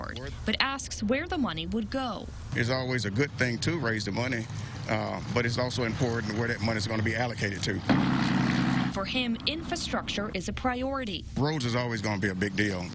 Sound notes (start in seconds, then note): 7.7 motors running